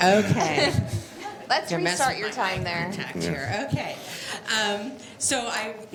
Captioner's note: laughter